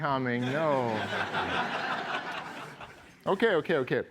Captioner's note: laughter